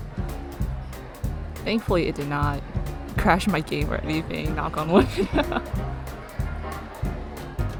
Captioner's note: laughs